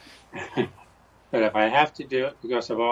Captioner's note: chuckles